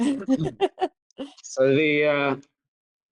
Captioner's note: laughing